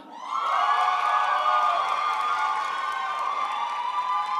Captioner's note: crowd applauds